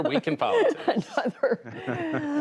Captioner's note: laughter